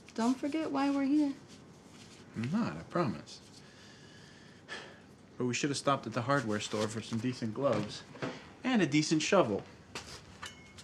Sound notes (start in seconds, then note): 4.6 sighs